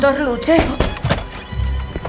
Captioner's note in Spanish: Golpeando la puerta